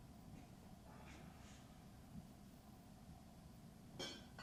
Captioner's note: none